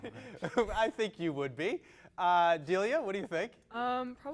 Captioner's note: laughs